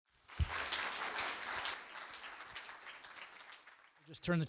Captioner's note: applause